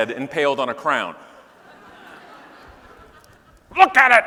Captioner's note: audience laughing